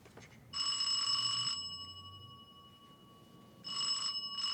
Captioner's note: doorbell ringing